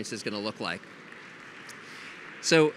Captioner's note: audience applauds